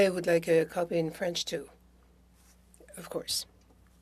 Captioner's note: speaking French